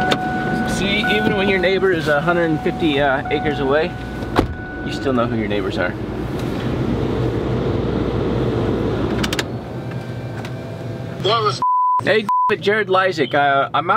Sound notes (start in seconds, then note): 11.2 man Over Phone; 11.6 beep